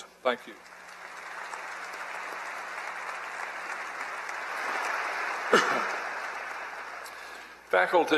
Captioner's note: applause